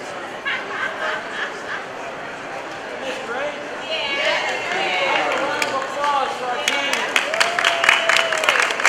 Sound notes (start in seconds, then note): 3.8 other participants cheering; 6.6 clapping